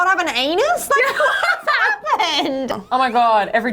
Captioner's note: laughing